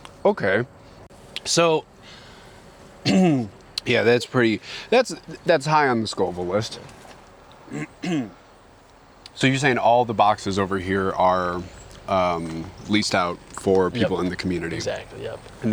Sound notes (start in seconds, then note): 3.0 throat clearing; 7.6 throat clearing